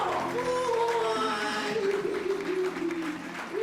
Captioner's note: laughing; applause